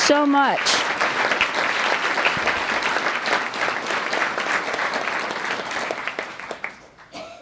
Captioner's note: appaluse